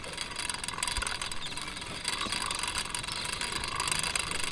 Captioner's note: birds cooing